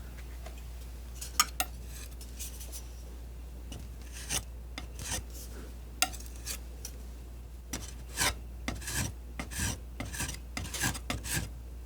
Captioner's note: metal scraping